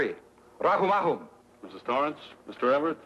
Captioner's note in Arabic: يتحدث لغة أجنبية